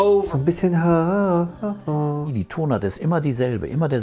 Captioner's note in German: summt gelangweilt die Melodie